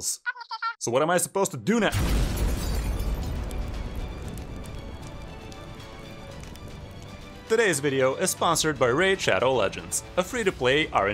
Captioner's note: explosion